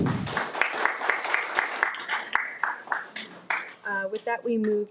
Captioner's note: audience applauding